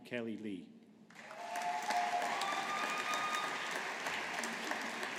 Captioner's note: audience applauding